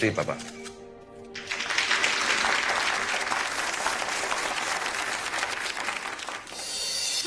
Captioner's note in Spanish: Aplausos